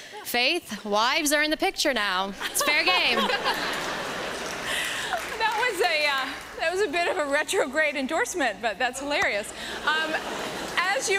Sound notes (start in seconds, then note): 2.4 laughter